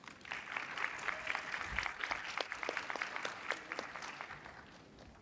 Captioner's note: attendees applauding